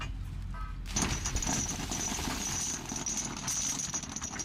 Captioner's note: anchor chain rattling